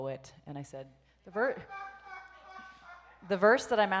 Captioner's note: audience laughs